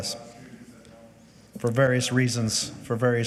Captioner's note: faintly speaking